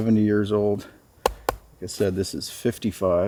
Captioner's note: taps